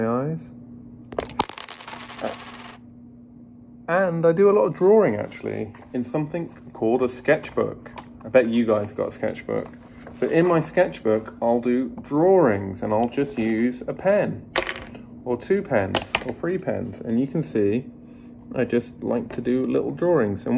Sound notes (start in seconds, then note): 1.2 plastic clattering